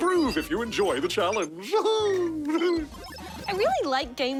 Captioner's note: laughs